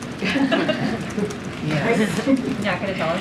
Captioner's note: laughter